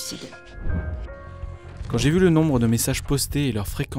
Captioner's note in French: voix masculine